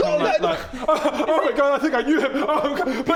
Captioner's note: cries